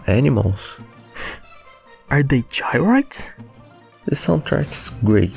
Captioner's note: gasp